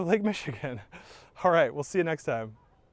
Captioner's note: chuckling